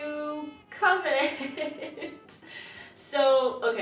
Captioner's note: laughs